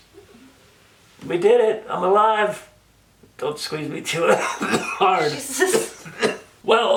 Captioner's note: coughs